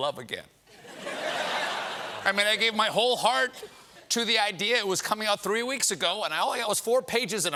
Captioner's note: laughter